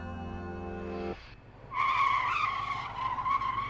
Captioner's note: tires screech